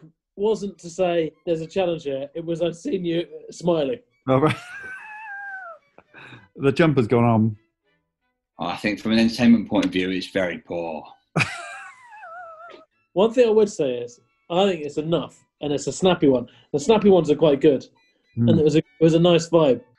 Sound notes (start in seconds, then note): 4.3 sniggering; 11.4 laughing